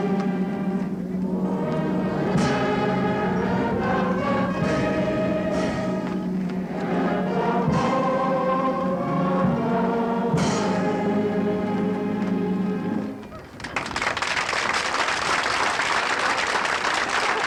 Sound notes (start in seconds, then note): 13.5 applause